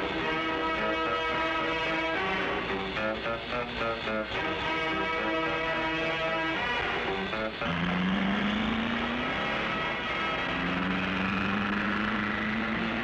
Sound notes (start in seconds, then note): 8.0 car engine revving